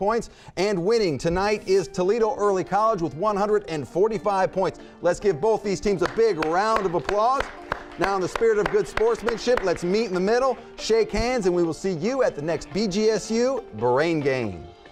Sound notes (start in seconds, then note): 6.0 audience applauds; 14.7 upbeat music